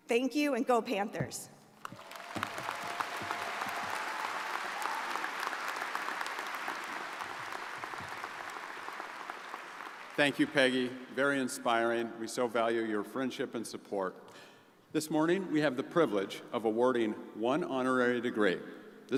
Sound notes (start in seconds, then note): 2.0 crowd applauding